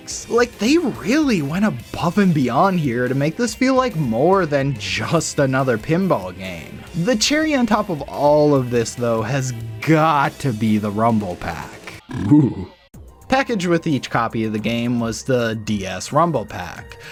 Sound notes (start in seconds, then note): 12.1 DS Rumbles